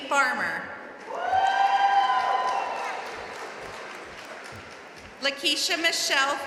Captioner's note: audience cheering and applauding